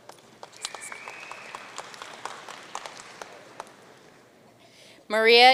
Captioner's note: audience cheering and applauding